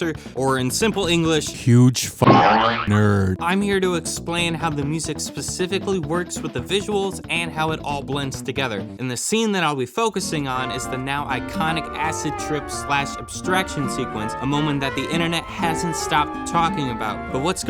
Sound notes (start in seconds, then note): 2.2 boing